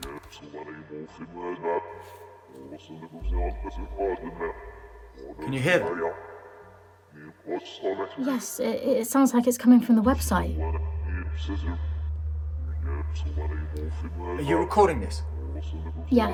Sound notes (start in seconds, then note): 0.2 Dark Entity speaking in foreign language; 11.3 Dark Entity speaking in foreign language